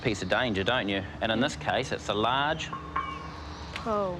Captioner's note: metal resonates